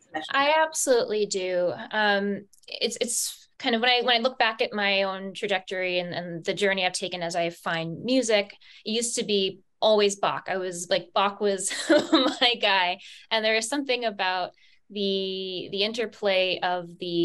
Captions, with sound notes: - I absolutely do. It's when I look back at my own trajectory and the journey I've taken as I find music, it used to be always Bach. I was like, Bach was (laughs) my guy. And there is something about the interplay of